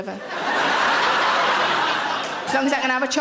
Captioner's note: audience laughing